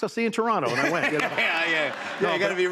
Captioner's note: laughter